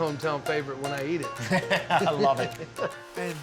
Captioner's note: laughs